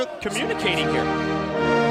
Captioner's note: crowd chatter